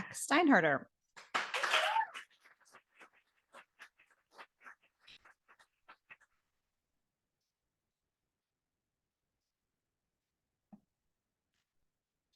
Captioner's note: audience applauding